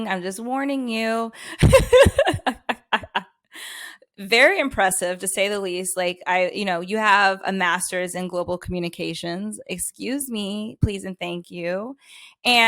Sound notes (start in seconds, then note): 1.6 loughs